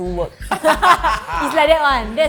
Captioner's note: laughing